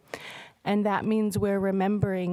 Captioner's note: speaking indigenous language